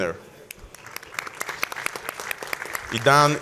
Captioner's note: audience applauds